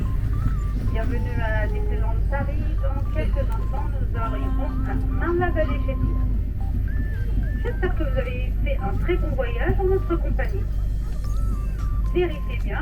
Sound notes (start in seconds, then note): 5.6 yells quietly; 6.2 announcement continues